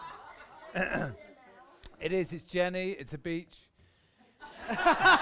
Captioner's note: laughter; he clears throat; laughter